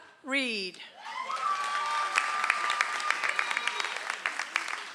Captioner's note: audience applauds